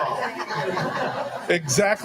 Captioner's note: all laughing